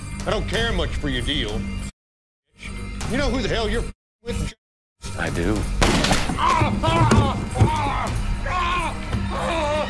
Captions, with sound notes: - Fiddly, I don't care much for your deal, you s... . You know who the hell you're f... with, j... a...? - I do. (gunshot) (Zebediah groaning in pain)